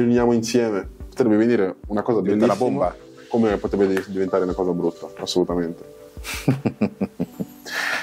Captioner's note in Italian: Risate